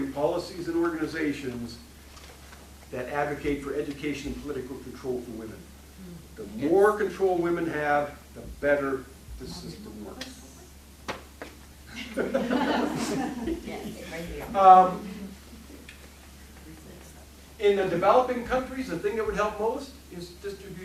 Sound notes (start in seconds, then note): 11.9 laughing